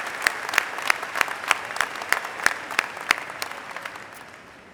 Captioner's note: applause